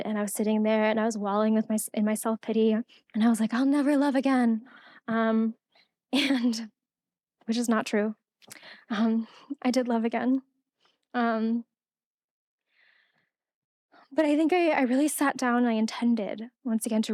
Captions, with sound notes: And I was sitting there and I was wallowing in my self-pity. And I was like, "I'll never love again," (laughing) which is not true. I did love again. But I think I really sat down and I intended, once again,